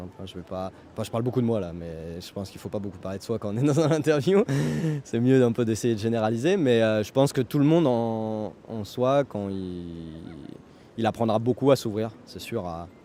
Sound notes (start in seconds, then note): 4.4 laughs